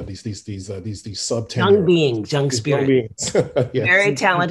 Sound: laughs

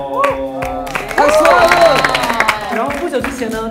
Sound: applause

